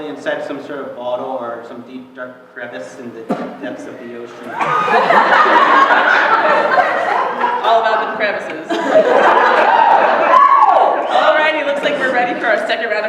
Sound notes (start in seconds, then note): 4.5 laughter; 8.9 cheering